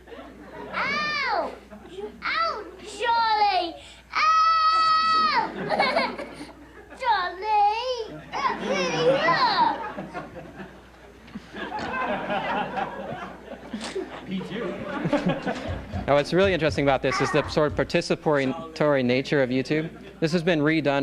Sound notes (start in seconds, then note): 11.2 laughter